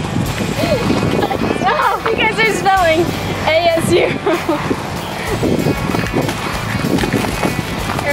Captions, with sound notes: (laughing) You guys are silly. A-S-U.